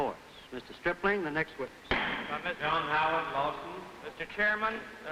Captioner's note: gavel banging